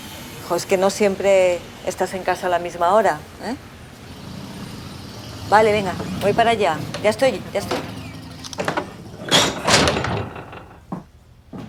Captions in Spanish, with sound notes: No siempre estás en casa a la misma hora. [MUCHO RUIDO DE LA CALLE] Vale, venga. Voy para allá. Ya estoy.